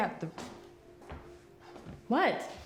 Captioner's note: footsteps tapping